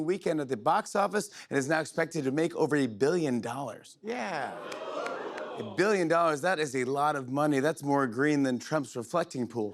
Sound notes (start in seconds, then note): 4.4 audience oohs